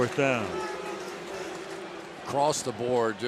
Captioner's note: pa announcement